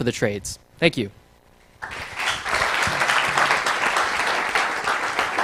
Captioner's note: applause